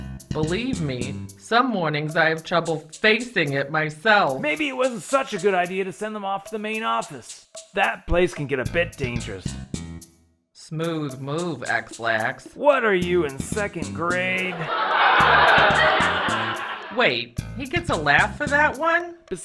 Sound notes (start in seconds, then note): 14.4 studio audience laugh track